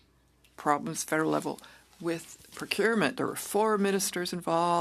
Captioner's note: speaking French